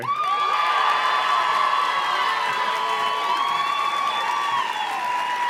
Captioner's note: audience cheers and claps